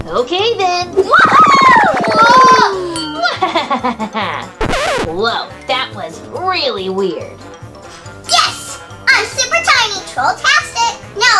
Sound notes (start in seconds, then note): 1.3 laughter; 1.3 loud cry